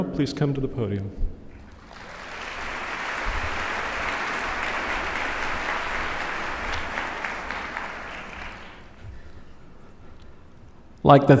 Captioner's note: applause